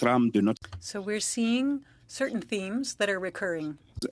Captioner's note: speaking French